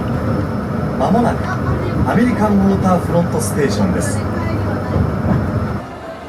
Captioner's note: announcer speaking in Japanese